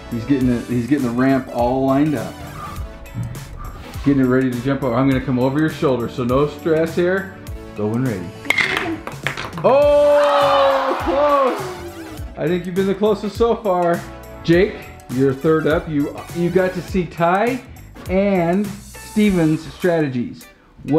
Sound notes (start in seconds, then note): 8.4 ball clacks; 9.8 disappointed crowd